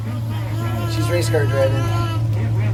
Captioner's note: babbling